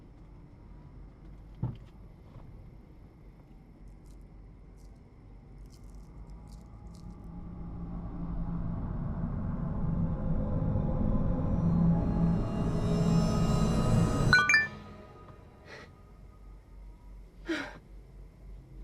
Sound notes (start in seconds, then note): 1.6 sound of trunk banging shut; 14.3 cellphone message tone; 17.4 Sarah gasps